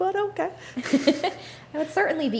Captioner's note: laughs